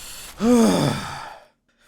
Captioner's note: sighs